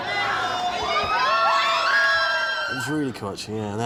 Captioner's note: girls screaming